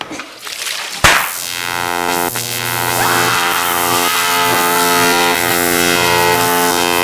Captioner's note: water splashing; electricity crackling